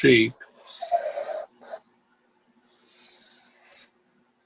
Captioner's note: pencil squeaking